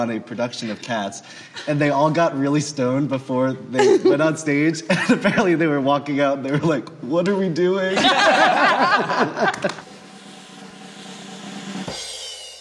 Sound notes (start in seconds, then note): 7.9 all laughing; 10.6 drumroll